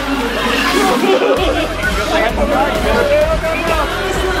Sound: laughing

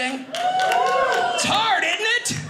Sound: audience cheers

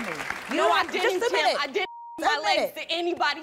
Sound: beep

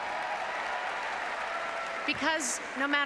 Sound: applauses and cheers

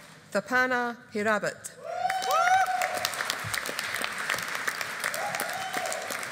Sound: audience applauding

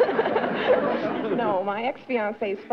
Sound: laughter

